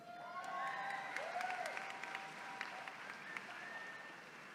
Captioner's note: attendees cheering